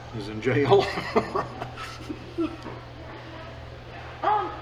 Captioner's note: laughing